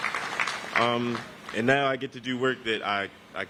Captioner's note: applause